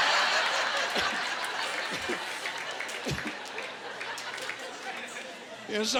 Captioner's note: laughing